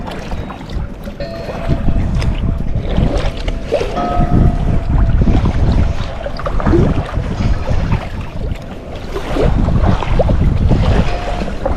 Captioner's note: bell buoy clanging